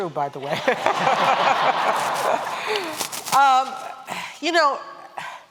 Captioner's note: laughter